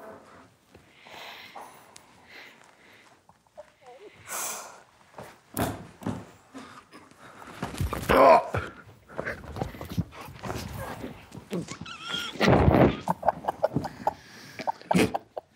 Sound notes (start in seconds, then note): 8.0 grunts; 11.5 group quietly laughs